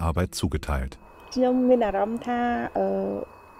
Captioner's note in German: in ihrer Sprache